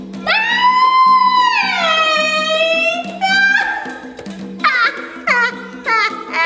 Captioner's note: laughter in high-pitched voice